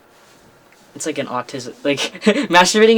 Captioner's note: laughs